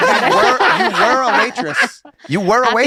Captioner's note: laughter